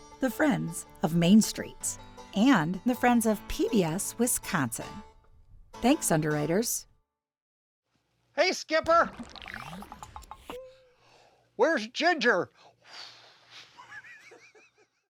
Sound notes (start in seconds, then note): 12.8 John exhaling; 13.6 John laughing